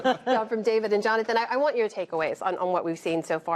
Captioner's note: laughter